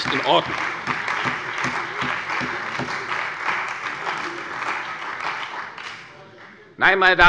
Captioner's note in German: Beifall bei der CDU und dem BÜNDNIS 90/DIE GRÜNEN